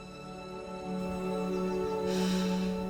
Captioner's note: breathes